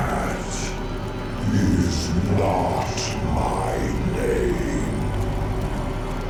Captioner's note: demon Voice